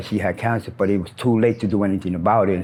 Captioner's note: birds chirp